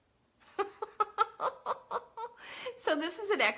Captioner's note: laughs